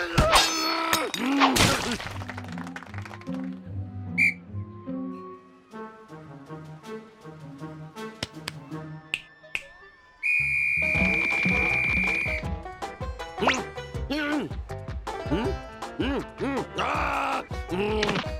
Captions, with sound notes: (shouting) MMM! (tweet) (snaps fingers) (whistle blows) NNH! NNNH! HMM? HMM? HMM? AAH!